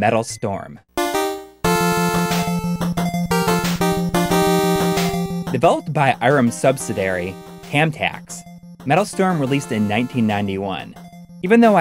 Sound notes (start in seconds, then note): 2.1 game audio